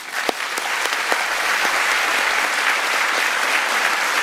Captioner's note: audience clapping